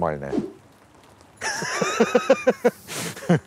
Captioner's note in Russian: смеется